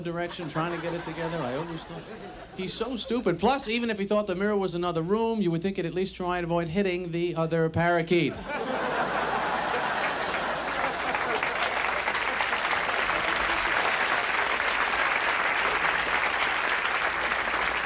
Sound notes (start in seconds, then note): 8.2 audience laughs; 10.2 audience applauds